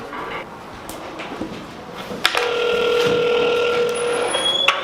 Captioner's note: phone ringing